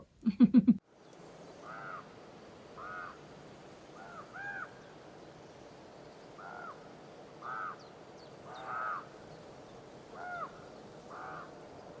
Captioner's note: nature sounds, wind sound, ravens croaking